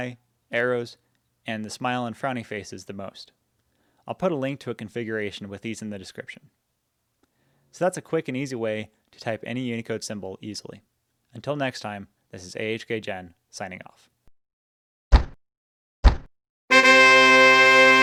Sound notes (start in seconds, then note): 15.1 thud; 16.7 fanfare